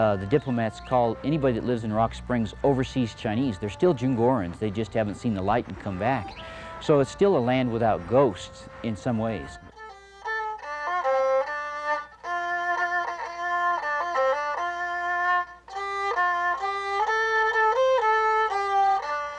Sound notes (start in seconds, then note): 4.3 foreign language; 9.9 traditional Chinese music